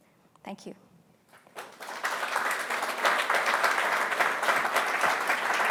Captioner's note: applause